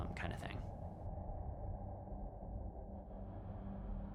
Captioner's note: haunting forest atmosphere softens; somber music begins